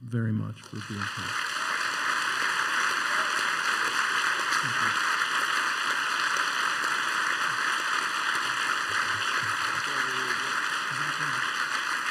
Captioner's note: applause